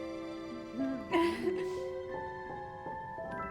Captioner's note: giggling